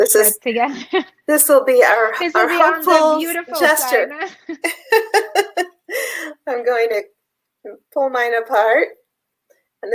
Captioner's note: laughs; laughs